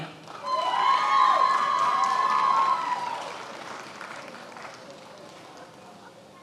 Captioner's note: attendees applauding and cheering